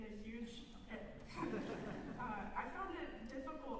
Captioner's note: laughter